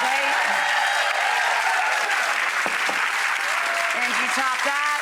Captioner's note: audience applause